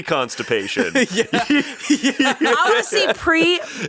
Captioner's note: laughs